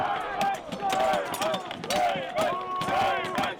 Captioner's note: chanting